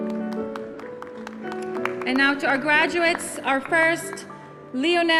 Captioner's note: applause